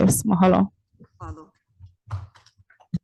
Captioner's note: speaks in foreign language